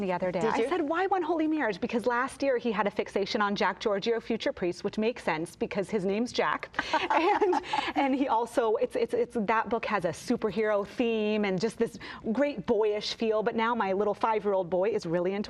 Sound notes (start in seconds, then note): 6.8 laughs